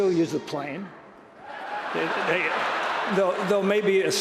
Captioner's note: applause